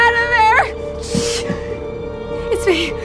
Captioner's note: shushes